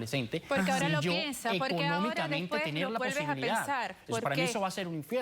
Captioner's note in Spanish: Hablan al unísono